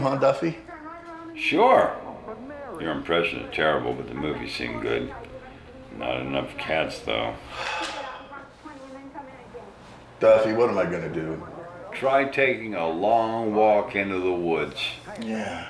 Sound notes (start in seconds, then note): 7.3 sighs